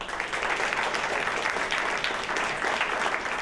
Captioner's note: applause